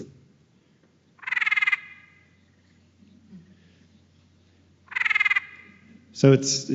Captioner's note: sounds of a laughing tree frog playing